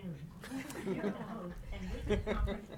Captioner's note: audience laughing